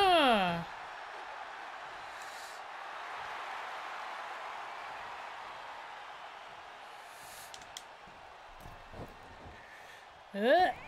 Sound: applause

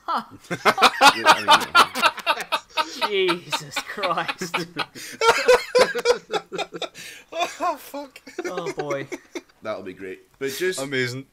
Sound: laughing

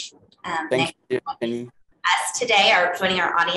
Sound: audio breaking

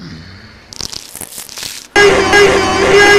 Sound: creepy neck creaking

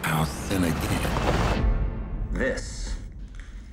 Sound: car whooshing

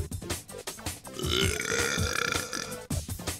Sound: belching

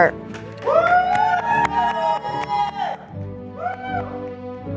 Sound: audience applauding

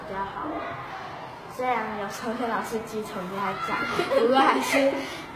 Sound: laughing

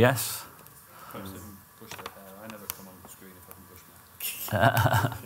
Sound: IT support talking in background; laughter

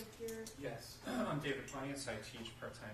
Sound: clears throat

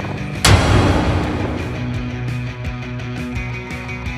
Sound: thud echoes; rock music

